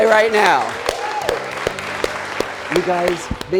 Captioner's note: crowd cheering